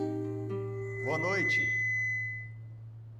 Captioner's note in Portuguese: microfonia